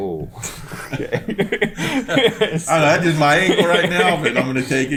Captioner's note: laughs